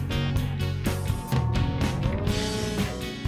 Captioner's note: cows mooing